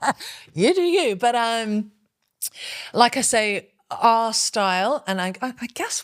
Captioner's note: laughing